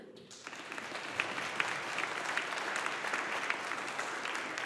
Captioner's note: audience applauding